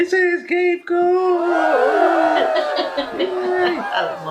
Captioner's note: cheerin